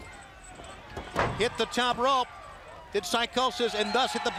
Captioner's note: crowd chatter